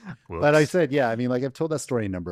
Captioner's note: laughter